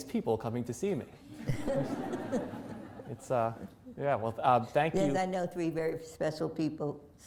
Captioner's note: laughter